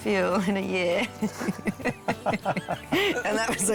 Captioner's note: laughter